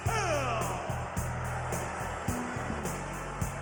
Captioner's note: crowd cheering; upbeat music